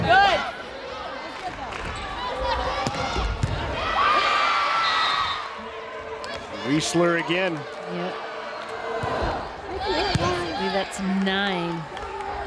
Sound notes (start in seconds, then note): 0.2 players yelling; 4.1 crowd cheering